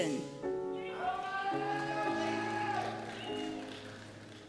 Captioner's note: cheers